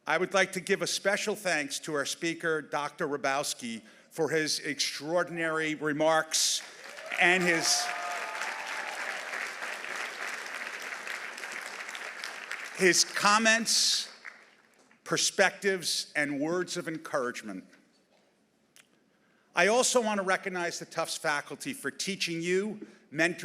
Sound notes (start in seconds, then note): 6.6 audience applauding; 6.8 audience cheering